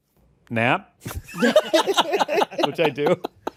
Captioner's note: all laugh